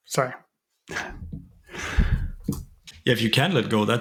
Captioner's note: laughs